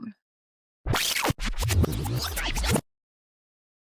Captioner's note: video rewind noise